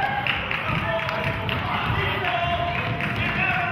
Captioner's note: clapping